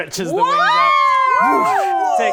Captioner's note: cheering